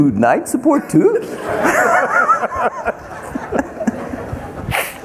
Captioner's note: everyone laughing